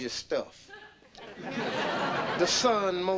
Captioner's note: audience laughing